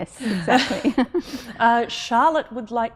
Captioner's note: laughing